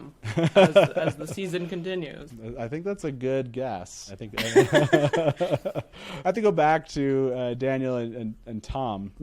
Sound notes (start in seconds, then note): 0.2 laughs; 4.4 both laughing